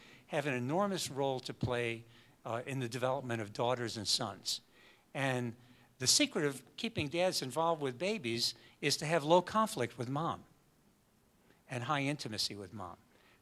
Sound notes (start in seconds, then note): none